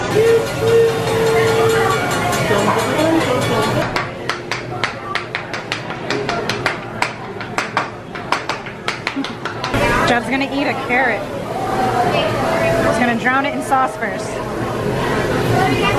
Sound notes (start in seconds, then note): 0.0 train whistle; 3.9 spice shakers clacking